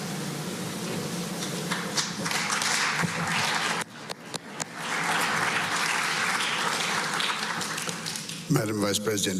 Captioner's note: applause